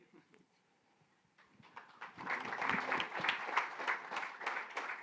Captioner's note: light applause, laughter